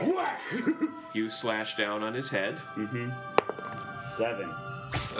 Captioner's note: rolls dice